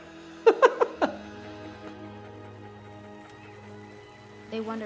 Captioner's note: laughs